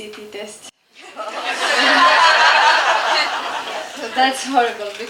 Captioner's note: audience laughter